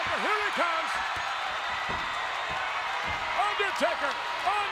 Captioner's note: audience cheering